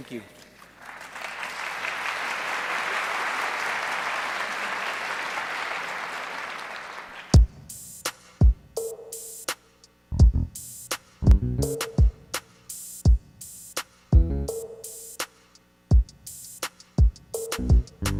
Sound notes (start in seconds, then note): 6.7 applause